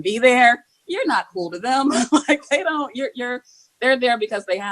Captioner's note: laughing